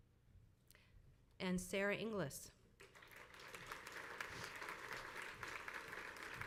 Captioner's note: crowd applauds